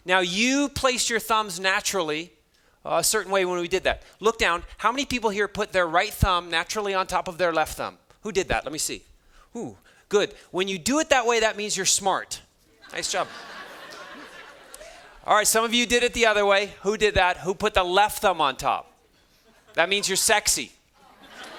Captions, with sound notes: Now, you place your thumbs naturally a certain way when we did that. Look down. How many people here put their right thumb naturally on top of their left thumb? Who did that? Let me see. Oh, good. When you do it that way, that means you're smart. - Nice job. (students laughing) All right, some of you did it the other way. Who did that? Who put the left thumb on top? That means you're sexy.